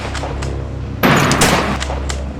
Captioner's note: gun Shots; gun Shot